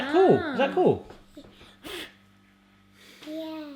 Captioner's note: blows